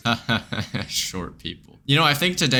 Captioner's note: laughs